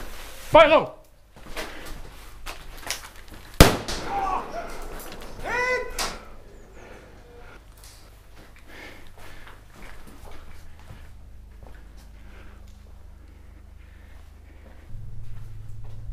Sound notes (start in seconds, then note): 3.6 explosion